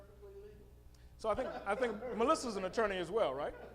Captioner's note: laughing